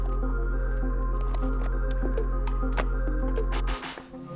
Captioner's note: drill whirring